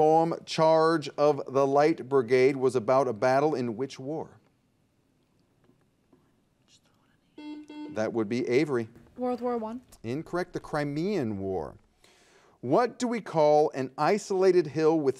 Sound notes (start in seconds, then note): 7.4 buzzer dings